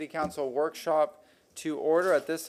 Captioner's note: sounding gavel